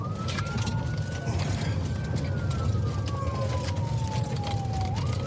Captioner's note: siren wailing